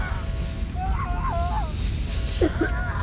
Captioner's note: henchman screaming; fire raging; Megan coughing